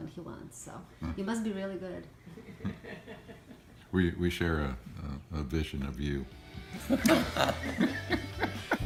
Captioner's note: laughing